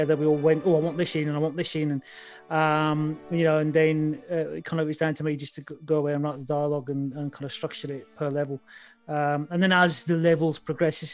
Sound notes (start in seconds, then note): none